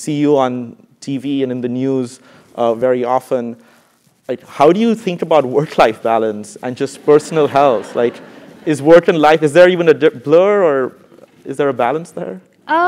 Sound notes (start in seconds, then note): 7.2 laugh